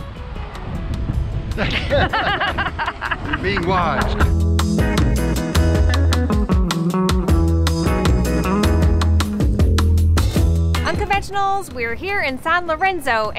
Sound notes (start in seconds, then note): 1.5 laughing; 6.0 upbeat music